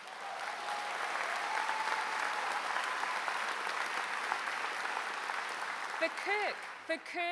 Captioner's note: applause